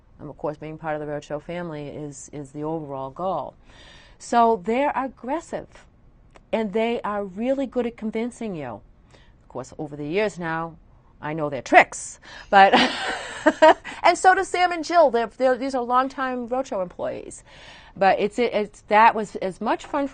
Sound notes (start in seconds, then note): 12.6 laughter